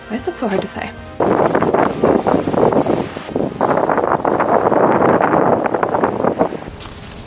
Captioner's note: loud and mischievous wind